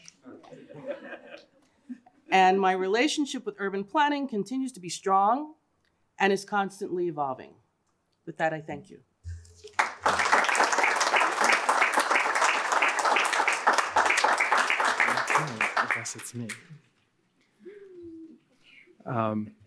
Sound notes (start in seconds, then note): 0.2 laughter; 9.6 applause